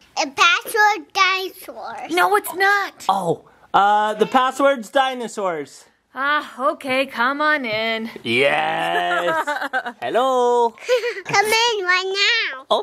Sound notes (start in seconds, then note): 6.4 groans; 8.8 laughs; 11.2 laughs